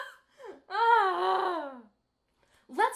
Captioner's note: sigh